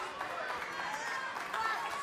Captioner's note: cheers & applause